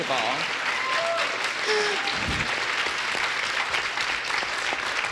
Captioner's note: audience applauds